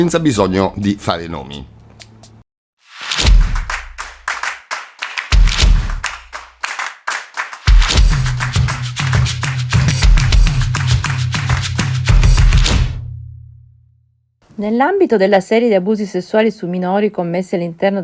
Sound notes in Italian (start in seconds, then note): 3.3 Applauso